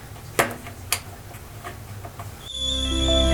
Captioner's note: clicking; coffee pot whistling; instrumental music